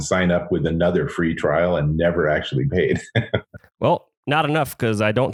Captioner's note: laughs